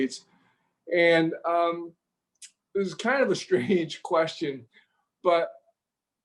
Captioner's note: chuckles